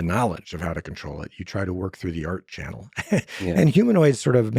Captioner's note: laughs